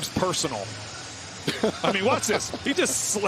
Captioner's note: laughter